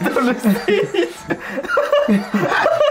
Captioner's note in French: Rire commun